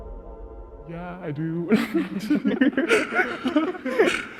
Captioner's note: laughs